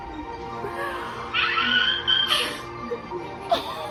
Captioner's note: more of screaming